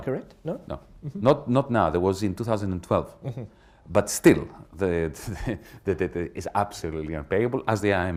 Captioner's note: chuckles